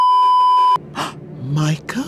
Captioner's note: beeeeeep; gasp